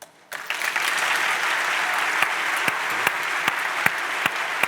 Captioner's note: audience applauds